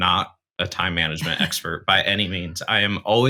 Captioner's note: chuckles